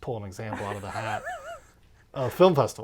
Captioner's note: laughs